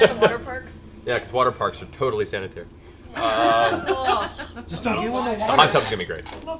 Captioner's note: laughs